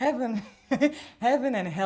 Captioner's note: soft chuckles